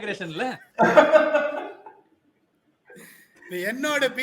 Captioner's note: laughs